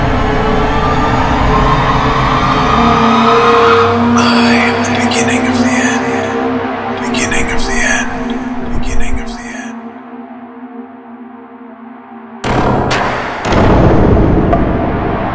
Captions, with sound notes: I AM THE BEGINNING OF THE END beginning of the end (echo)